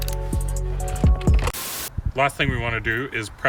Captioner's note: TV hissing